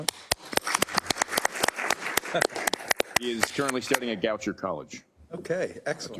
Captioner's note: applause